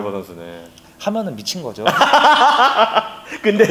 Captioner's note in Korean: 웃음